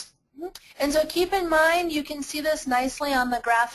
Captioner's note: voiceover